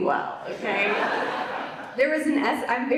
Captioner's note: audience laughs